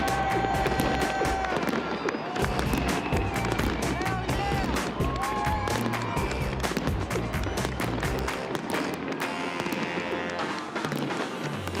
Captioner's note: cheering